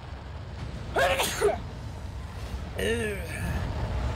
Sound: big Boy Sneeze

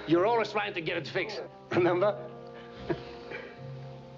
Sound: chuckles

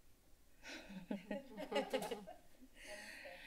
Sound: laughs

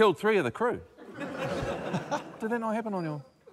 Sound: laughter

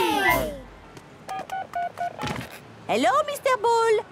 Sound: dial tones beeping

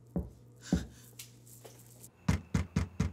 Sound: knocks

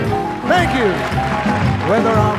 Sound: audience applauding

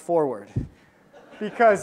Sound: audience laughs

